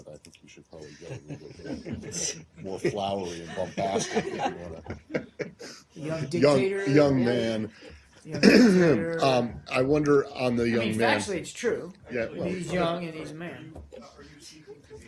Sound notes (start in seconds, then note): 6.0 laughter